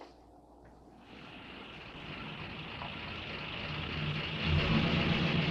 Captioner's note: car engine rumbling